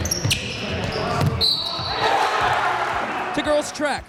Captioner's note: shoes squeaking; whistle blows; crowd cheering